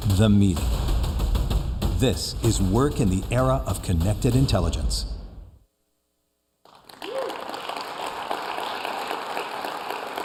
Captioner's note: applause